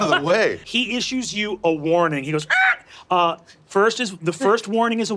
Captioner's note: squawks